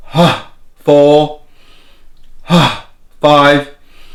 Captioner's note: inhales deeply; inhales deeply